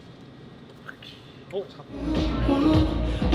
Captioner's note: argh